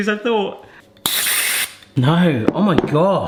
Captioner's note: gas hissing